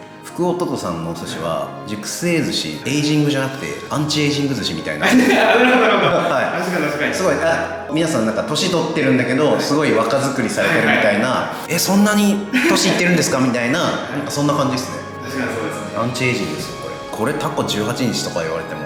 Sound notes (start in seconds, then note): 12.3 laughs